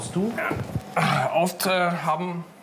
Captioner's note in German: Ächzen